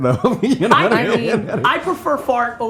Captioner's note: laughing